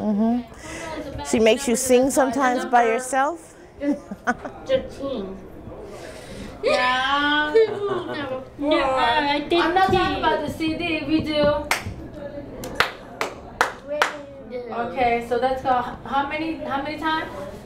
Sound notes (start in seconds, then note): 3.8 laughter; 10.8 clapping